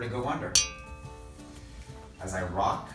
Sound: bell ring

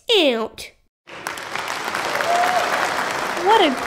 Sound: applause

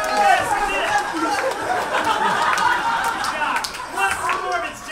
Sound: cheer

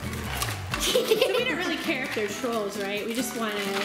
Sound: laughing

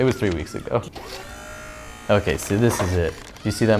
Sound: whirring

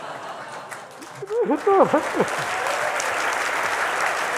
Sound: applause

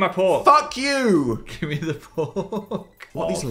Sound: laughs

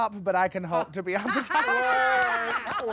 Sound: laughter

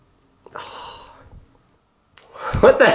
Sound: sighs

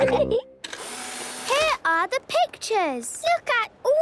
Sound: whirring

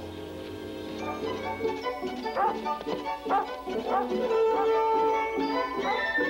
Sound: melodious music; Shep barking

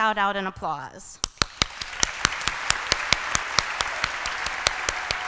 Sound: applause

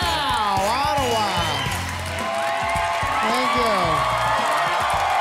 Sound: applause, cheering

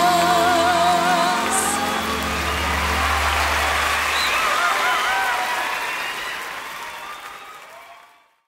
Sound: Gritos y aplausos

